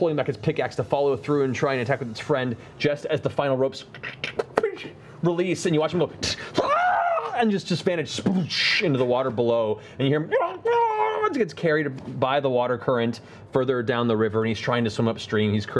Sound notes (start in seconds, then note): 6.5 yells; 9.7 gurgles